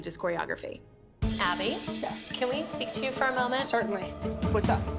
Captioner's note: none